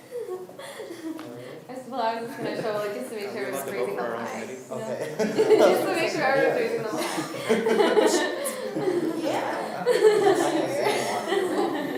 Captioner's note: students talking and laughing